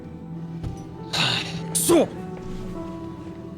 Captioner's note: sighs